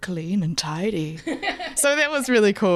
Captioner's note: laughing